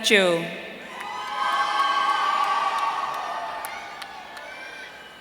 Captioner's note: audience cheering